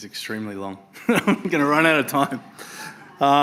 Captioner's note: laughs